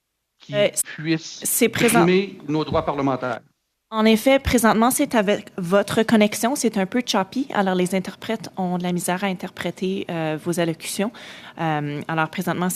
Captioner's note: speaking French